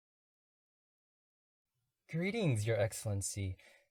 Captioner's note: none